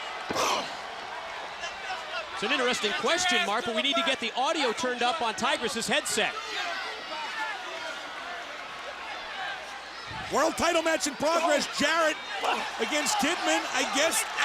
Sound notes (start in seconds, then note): 3.4 crowd chatter